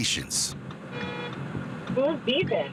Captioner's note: horn honks